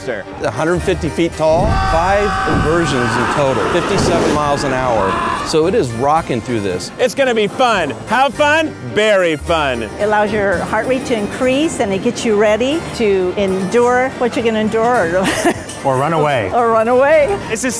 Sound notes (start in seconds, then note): 14.8 laughs